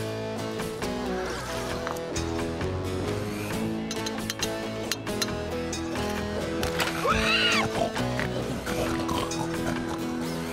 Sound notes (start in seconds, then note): 4.1 tap! Tap! Tap!; 7.1 gate Squeaks